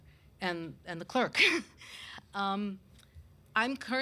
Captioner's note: laughs